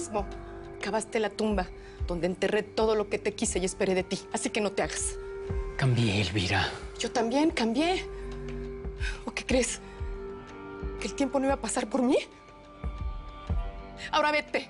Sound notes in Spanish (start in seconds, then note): none